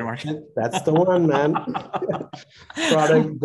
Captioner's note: laughing; chuckling